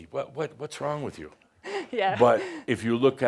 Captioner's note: chuckling